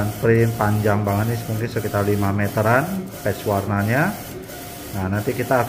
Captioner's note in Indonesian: suara mesin printer